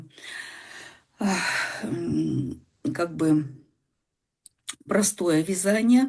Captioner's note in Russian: тяжело вздыхает